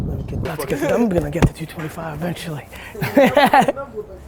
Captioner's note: laughs